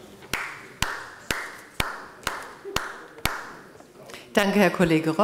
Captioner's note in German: Beifall bei der FDP